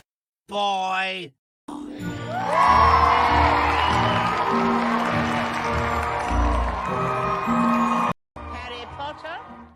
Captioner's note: cheering crowd